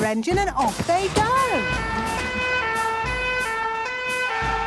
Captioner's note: siren sounding